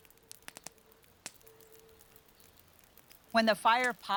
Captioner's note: crackling and popping softly